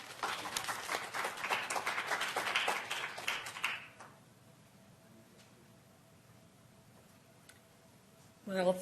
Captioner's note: applause